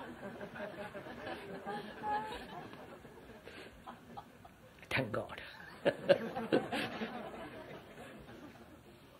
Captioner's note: laughter; laughs